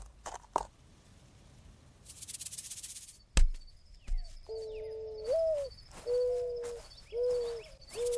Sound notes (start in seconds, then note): 2.0 snake rattling; 4.4 mourning dove hooting